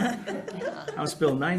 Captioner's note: group laughing